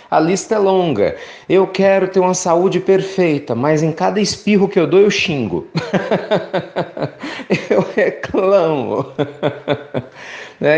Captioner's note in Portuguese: risadas